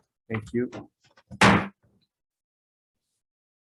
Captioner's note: gavel bangs